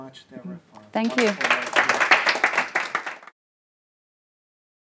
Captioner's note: audience applauding